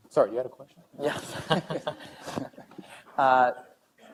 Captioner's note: laughing